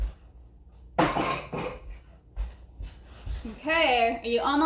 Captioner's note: dishes banging